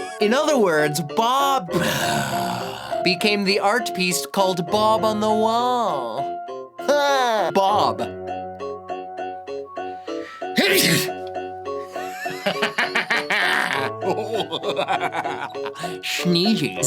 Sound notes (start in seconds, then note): 10.6 sneeze